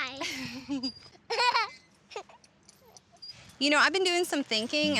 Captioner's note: laughing